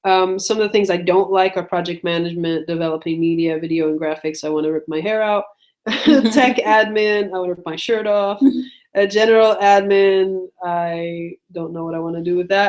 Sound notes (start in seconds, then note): 5.8 laughs